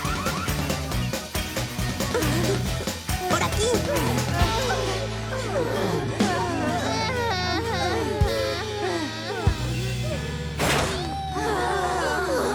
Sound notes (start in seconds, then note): 0.0 blaring alarm; 6.5 whimpering and panting